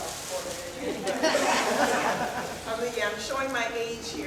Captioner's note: laughing